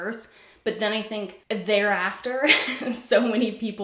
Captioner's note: giggles